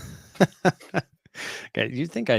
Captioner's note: chuckling